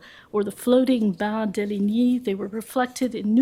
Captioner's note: french